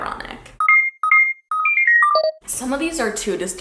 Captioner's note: beeping